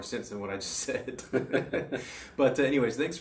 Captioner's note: laughs